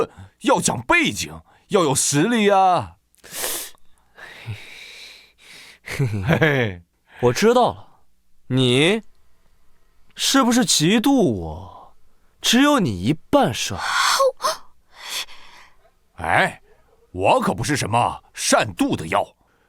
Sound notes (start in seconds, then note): 4.2 sighs